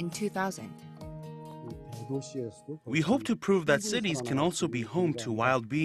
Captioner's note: Korean